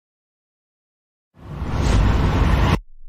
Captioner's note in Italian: FX - Storm